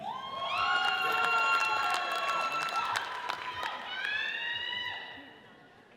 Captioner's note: audience cheers and applauds